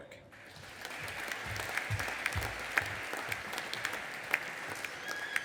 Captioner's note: audience applauding